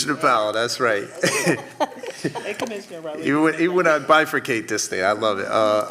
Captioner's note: laughter